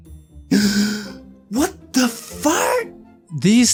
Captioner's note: gasp